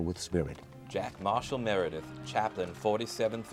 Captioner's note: voiceover